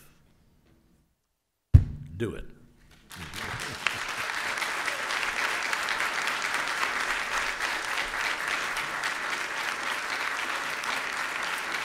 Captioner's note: applause